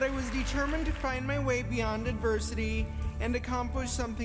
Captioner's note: applause